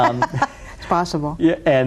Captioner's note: laughs